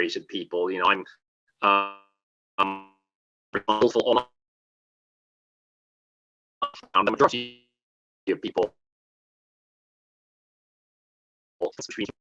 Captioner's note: audio break